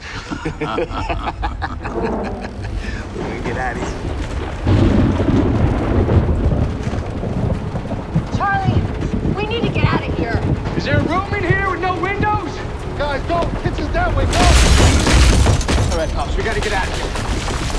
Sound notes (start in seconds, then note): 0.0 laughter; 3.8 thunderclap